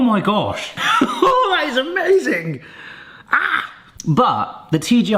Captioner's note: laughs; squeals